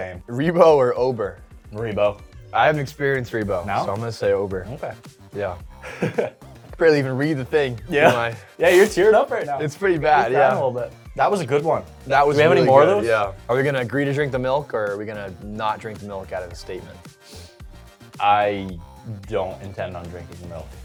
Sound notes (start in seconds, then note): 5.8 laughing